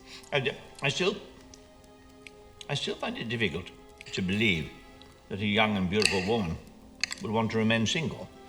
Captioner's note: none